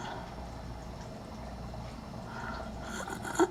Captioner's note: gasping Breaths